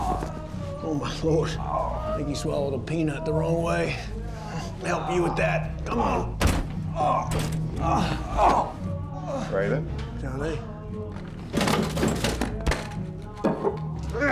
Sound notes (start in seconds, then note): 6.6 groaning